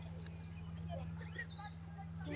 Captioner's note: birds chirping